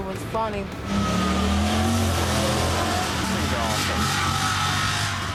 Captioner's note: engine roaring